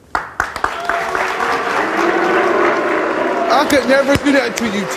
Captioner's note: audience boos